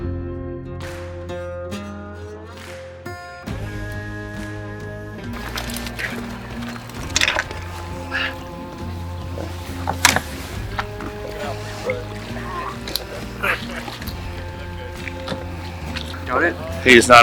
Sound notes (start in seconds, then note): 5.6 water splashing; 6.6 dive tanks rattling; 7.4 breath puffing; 8.8 water splashing; 11.7 crew muttering